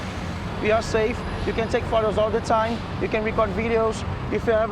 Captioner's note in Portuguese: homem em inglês